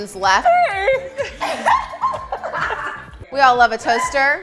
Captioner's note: laughter